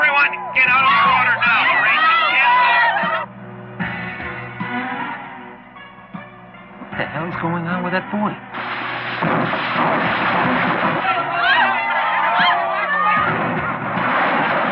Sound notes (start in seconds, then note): 3.6 ominous music; 10.9 cheering